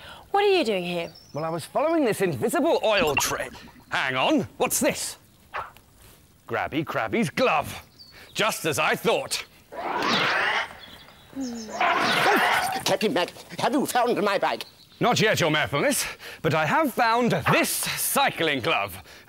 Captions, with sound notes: What are you doing here? Well, I was following this invisible oil tra... hang on! What's this? Grabby Crabby's glove! Just as I thought! [Sigh...] Captain Mack! Have you found my bike? Not yet, Your Mayorfulness! But I have found this cycling glove!